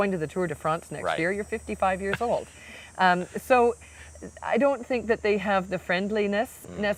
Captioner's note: laughing